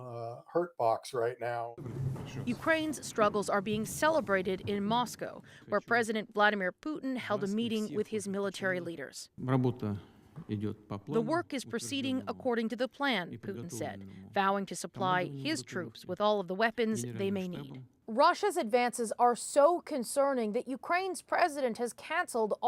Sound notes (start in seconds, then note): 11.6 speaking alternate language